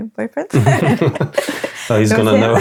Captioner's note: laughing